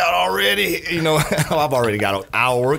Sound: laugh

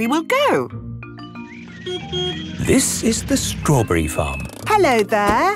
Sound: beeps

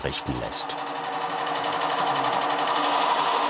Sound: whirring

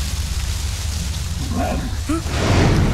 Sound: roar

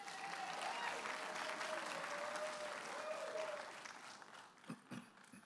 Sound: audience applauding and cheering

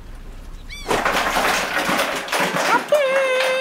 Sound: markers crash!

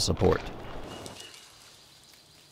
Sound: birds chirping

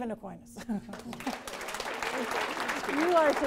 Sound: applause

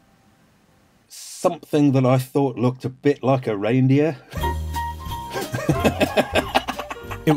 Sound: laughs

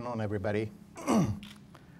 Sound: clears throat

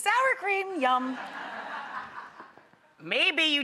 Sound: audience laughs

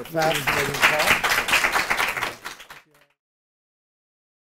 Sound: all clapping

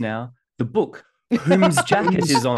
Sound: laughs

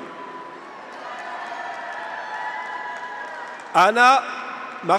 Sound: graduates cheer; audience applauds

